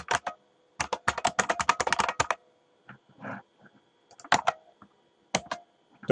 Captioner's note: typing